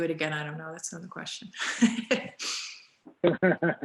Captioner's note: laughs